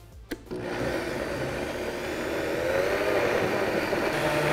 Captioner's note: blender whirring